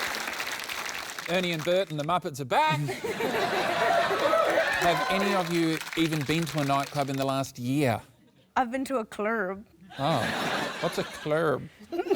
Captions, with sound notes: Ernie and Bert and the Muppets are back! (LAUGHTER) Have any of you even been to a nightclub in the last year? I've been to a 'clerb'. Oh. What's a 'clerb'?